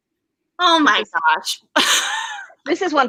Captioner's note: laughs